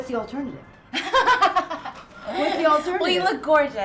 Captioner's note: laughing